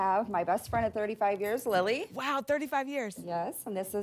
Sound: none

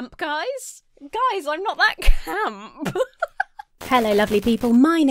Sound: laughs

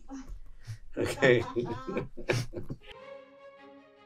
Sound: laugh

